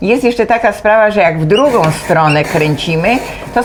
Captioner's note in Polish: skrzypienie